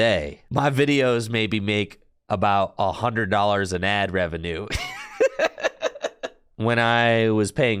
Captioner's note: laughs in Mahone